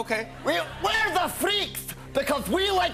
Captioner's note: Scottish accent